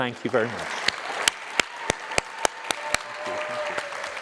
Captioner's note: cheers, applause